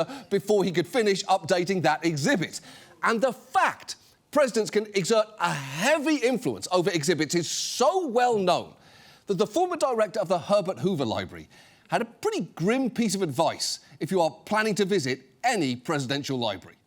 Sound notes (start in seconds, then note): none